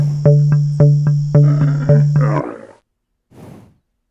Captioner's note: animal vocalization